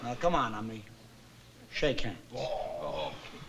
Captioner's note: both groaning